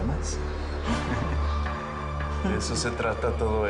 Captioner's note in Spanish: Ríe